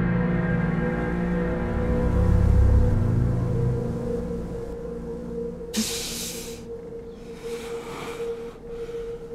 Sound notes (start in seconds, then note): 5.6 Jaymee gasping